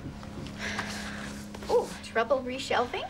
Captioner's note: Cassie sighs